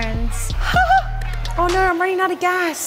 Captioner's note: giggles